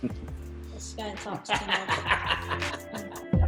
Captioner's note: dad laughs; gentle music